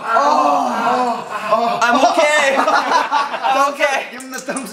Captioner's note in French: Rires